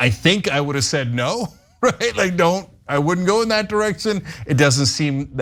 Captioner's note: laugh